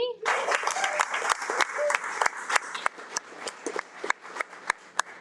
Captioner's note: audience applauding